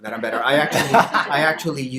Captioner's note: audience laughter